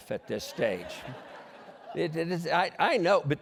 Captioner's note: laughter